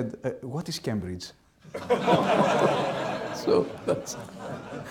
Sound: laughing

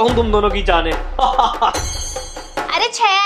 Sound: laughing

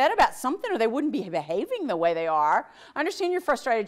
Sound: none

